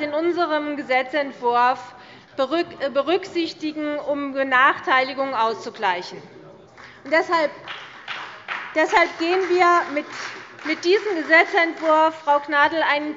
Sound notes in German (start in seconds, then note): 6.7 Beifall bei Abgeordneten der CDU und des BÜNDNISSES 90/DIE GRÜNEN